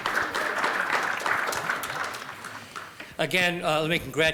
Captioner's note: applause